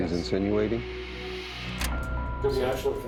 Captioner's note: button clicks